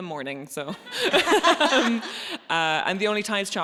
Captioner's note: audience laughs